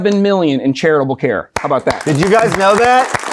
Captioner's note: clapping; audience applauding